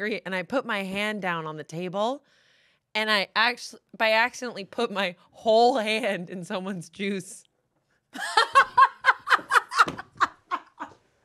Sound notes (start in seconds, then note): 8.1 laughs